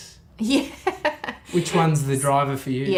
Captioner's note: laughing